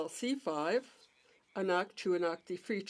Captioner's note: speaking French